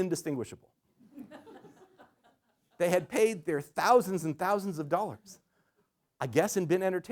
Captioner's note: laughter